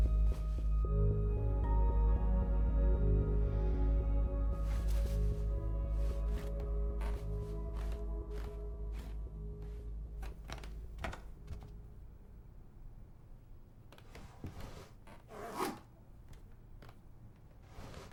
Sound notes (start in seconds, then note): 7.2 music fades; 10.2 floor creaks; 14.2 zipper